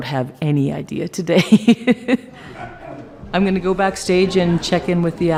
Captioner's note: laughs